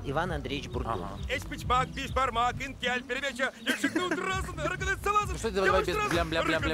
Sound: speaking Tatar

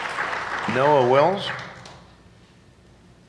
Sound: applause

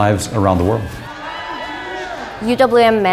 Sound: cheering

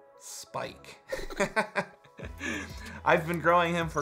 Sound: laughs

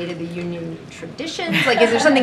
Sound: laughs

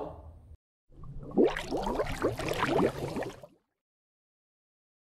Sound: water glugging

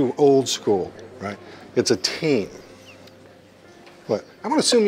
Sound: laughing

